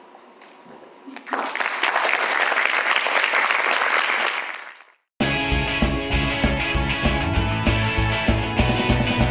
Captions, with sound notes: And that's it. (audience applause) (fast, upbeat music)